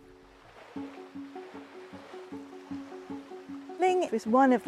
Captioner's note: water swishing